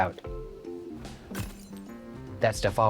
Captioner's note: glass bottle shatters